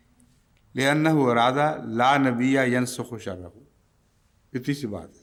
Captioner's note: Arabic